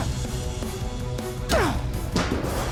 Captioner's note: grunting